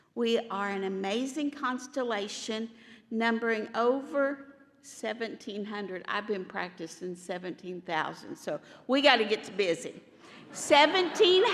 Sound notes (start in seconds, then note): 10.4 laughter